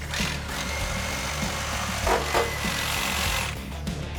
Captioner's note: saw whirring